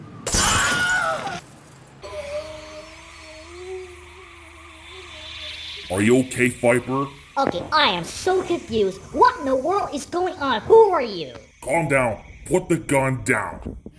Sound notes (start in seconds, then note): 2.0 painful groans